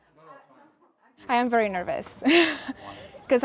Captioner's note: laughs